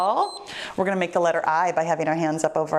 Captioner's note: timer beeps